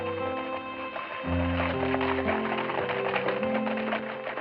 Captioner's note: horses approach